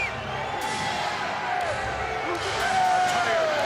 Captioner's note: crowd chatter